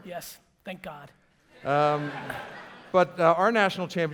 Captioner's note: audience laughter